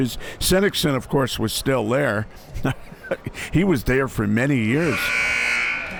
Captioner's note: laughs